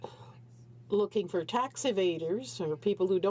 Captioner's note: speaking French